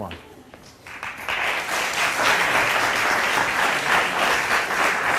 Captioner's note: audience applauds